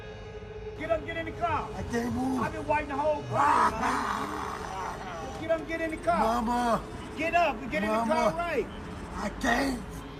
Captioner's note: crying